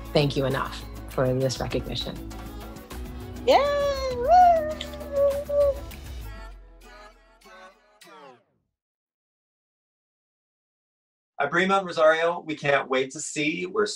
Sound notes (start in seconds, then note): 3.4 cheering; 3.4 clapping; 6.4 upbeat music